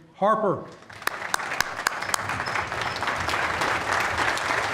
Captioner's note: applause